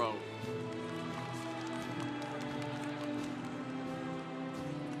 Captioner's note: congregation cheering